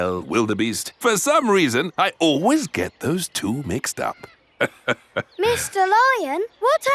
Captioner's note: laughs